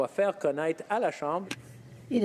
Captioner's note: speaking French